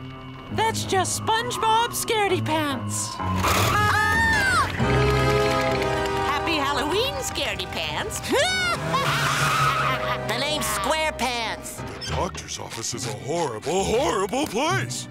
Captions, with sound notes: That's just SpongeBob ScaredyPants. [screaming] Halloween ScaredyPants. [laughing] The name's SquarePants. The doctor's office is a horrible, horrible place.